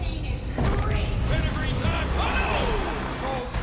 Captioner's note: crowd cheering